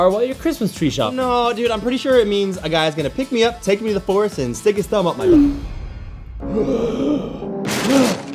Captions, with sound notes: while you're Christmas tree shopping. No, dude. I'm pretty sure it means a guy is gonna pick me up, take me to the forest, and stick his thumb up my-- (both gasp)